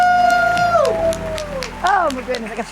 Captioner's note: audience applauding